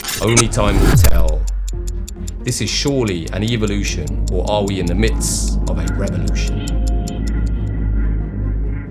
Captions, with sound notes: Only time will tell. (clock ticking) This is surely an evolution or are we in the midst of a revolution?